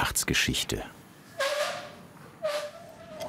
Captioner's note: squeaking